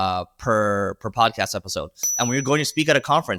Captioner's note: bell dinging